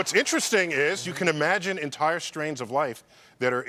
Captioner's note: laughter